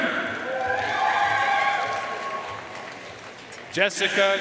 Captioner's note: audience cheering and applauding